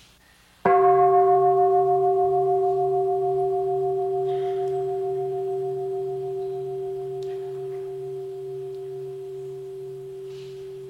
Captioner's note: bell